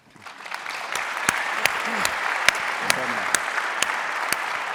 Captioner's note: audience applauding